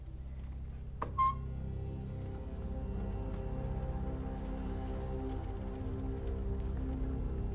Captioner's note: suspenseful music; door creaking